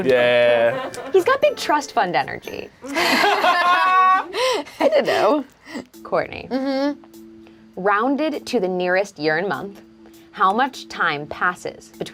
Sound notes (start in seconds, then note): 2.8 group laughs